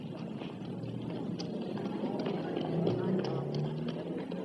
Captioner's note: chattering